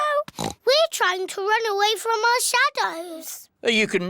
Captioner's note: oinks